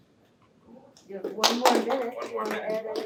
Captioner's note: applause